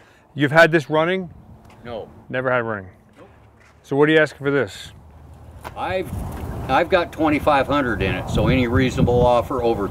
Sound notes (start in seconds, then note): 2.1 voiceover